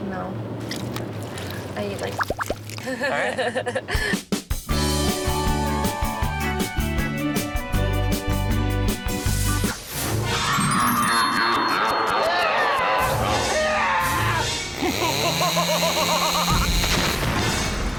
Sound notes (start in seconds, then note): 4.3 pop music; 10.2 horror sound effects; 14.7 chainsaw; 14.7 maniac laughter; 17.7 ominous music